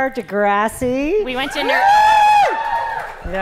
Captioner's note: cheers